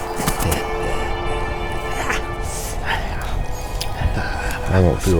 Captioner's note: Alferd chuckles...as he eats